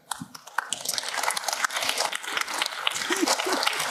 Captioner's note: applause